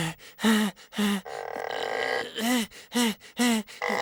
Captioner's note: laughs